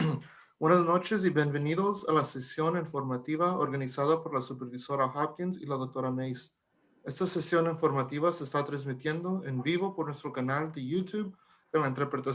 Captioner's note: talking in Spanish